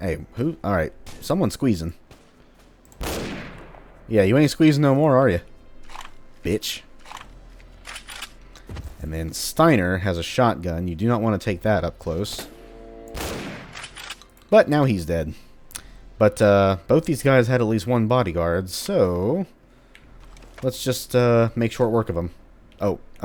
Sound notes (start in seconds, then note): 2.9 bam; 12.9 slight chargeup, BAM